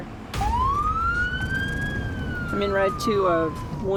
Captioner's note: siren blaring